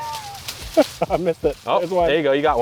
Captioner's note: leaves rustling; laughter